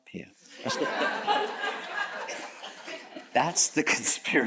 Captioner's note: audience chuckles